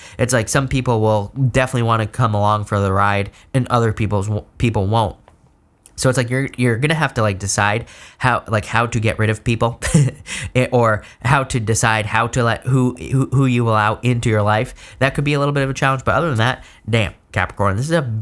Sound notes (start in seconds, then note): 10.3 laughs